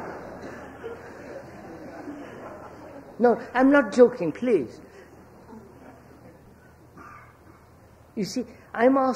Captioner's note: laughter